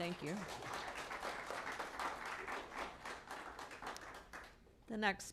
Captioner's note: applause